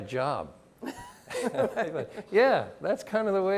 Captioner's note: chuckle